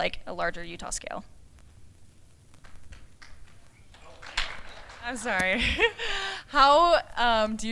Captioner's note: applause